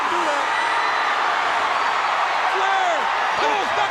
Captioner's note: crowd cheering